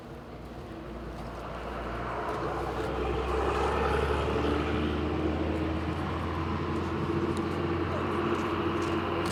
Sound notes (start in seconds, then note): 1.8 bus engine rumbling